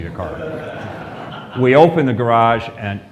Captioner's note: laughter